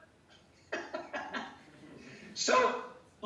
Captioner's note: laughing